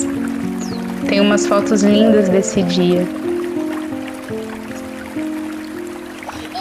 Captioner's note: sounds of water and laughter